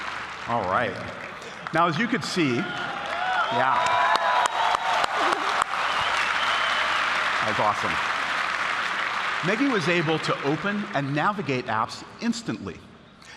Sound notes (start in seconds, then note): 0.0 applause; 2.7 applause